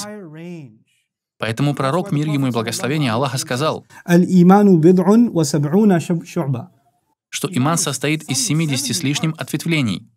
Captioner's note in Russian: говорит по арабски